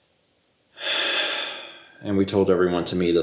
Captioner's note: exhausted sigh